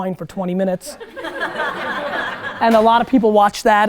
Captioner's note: students laugh